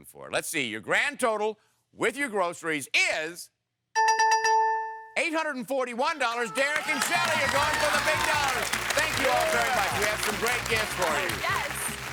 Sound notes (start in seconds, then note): 3.6 dinging